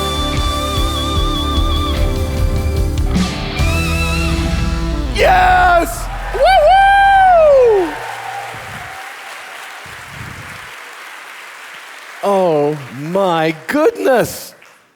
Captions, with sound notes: - Yes! Whoo-hoo! (audience applauding) - Oh my goodness.